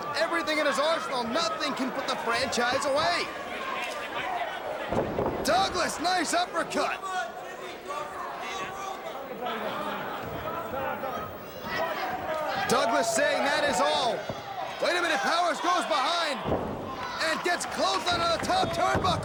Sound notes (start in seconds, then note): 8.8 crowd chatter